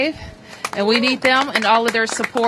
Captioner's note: applause